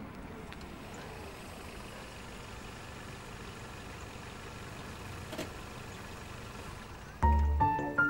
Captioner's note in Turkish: Araba sesi